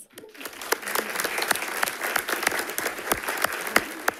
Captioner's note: all applauding